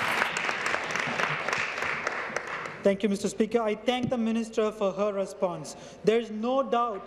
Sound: applause

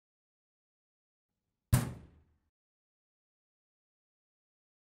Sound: loud bang

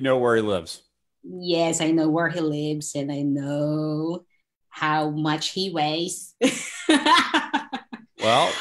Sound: laughs

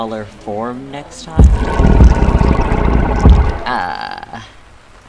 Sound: Azazel Snarls

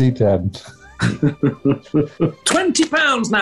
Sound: chuckling

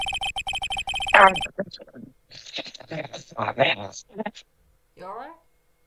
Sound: vaguely human being-like noises, as requested

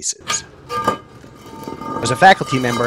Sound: manhole Scraping

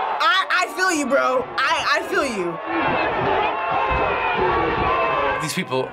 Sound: crowd cheering

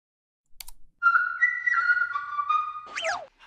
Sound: whistling noises playing; high squeak plays

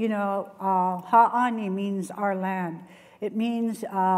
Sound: non-english speech

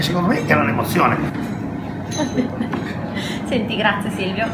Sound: laughing

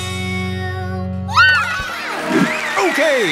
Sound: cheering

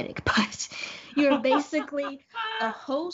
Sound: Brennan laughs

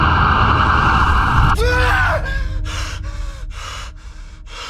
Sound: Cody screams

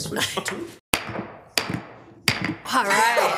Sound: gavel banging

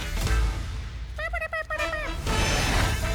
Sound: chirps

